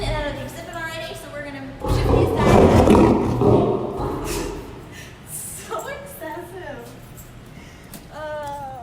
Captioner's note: lion growl